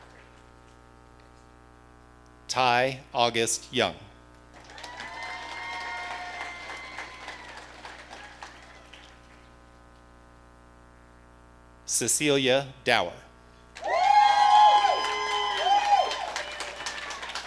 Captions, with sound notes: Ty August Young. (audience cheering) Cecilia Dauer. (audience cheering)